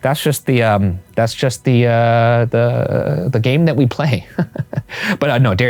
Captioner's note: laughs